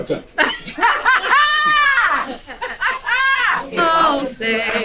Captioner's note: woman laughing